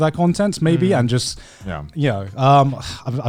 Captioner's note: affirmative murmuring